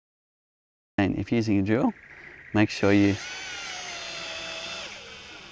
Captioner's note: drilling